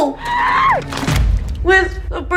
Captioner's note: screaming